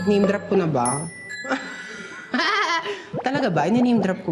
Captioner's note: chuckles